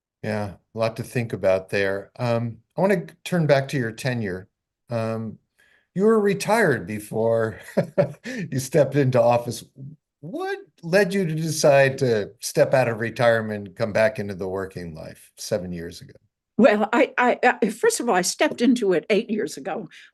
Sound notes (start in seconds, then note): 7.2 laughing